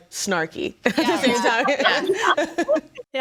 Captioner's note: group laughs